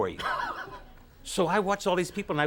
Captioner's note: Conan laughs